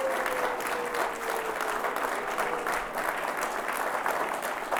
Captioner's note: audience applauds